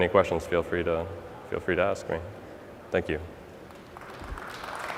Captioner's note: applause